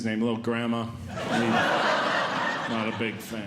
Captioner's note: audience Laughing